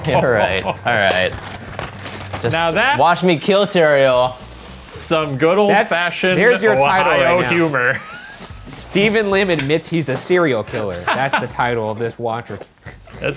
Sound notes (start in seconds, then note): 0.0 laughs; 0.9 bag crinkles